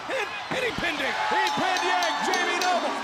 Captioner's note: bell ringing